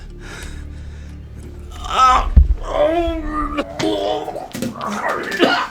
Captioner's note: Baker wincing and spewing